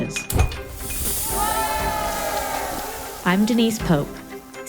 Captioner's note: children cheering